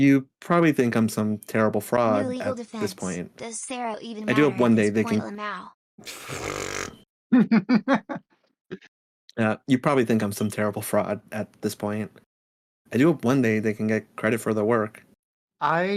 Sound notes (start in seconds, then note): 7.3 laughing